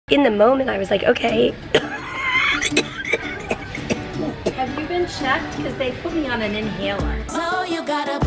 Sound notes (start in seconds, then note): 1.7 coughing